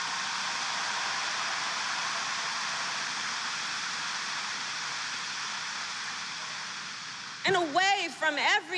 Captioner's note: applause